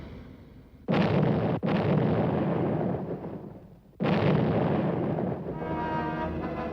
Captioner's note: explosions